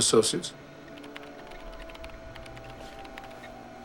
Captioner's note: keys clattering